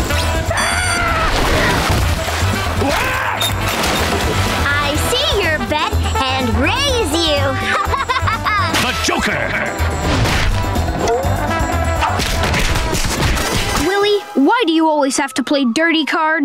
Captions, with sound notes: [screaming] I see your bet and raise you! [laughing] Willy, why do you always have to play dirty cards?